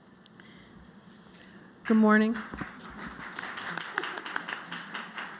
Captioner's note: applause